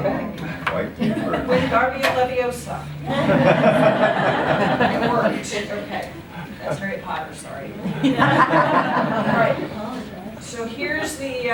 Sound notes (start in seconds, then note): 3.1 laughter; 9.2 laughter